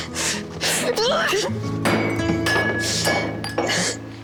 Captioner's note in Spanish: Grito